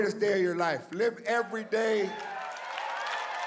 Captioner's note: audience cheers